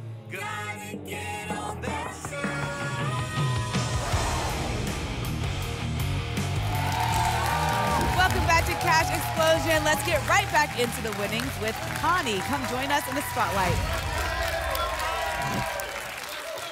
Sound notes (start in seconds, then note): 6.6 applause and cheering; 14.2 applause and cheering; 15.4 whoosh; 16.4 applause and cheering